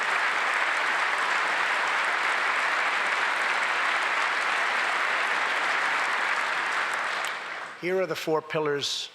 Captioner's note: applause